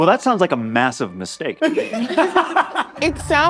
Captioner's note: all laughing